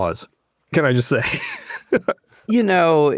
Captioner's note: laughs